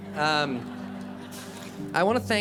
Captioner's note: attendees laugh